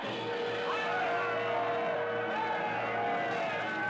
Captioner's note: yelling